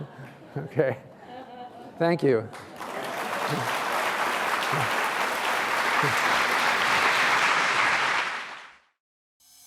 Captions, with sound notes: OK, thank you. [APPLAUSE]